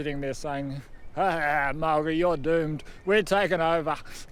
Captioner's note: laughs